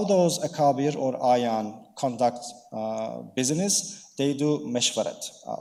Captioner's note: speaking in foreign language